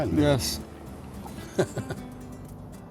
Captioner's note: laughs